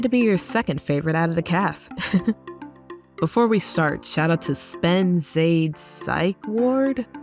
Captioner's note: chuckles